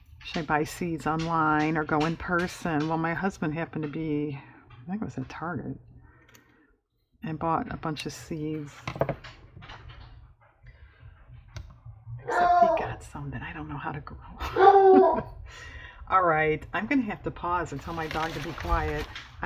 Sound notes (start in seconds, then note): 11.5 whispers; 15.1 dog barks